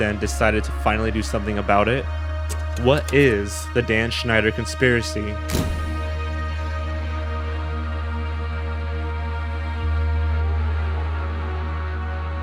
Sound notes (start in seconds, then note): 2.5 film reel click; 5.5 camera flash